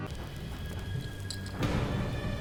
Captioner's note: clink